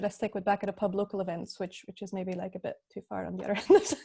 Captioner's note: laughs